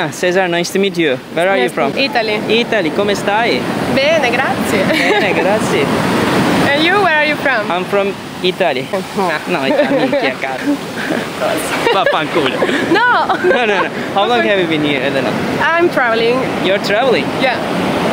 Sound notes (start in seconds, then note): 3.0 speaking Italian; 9.1 speaking Italian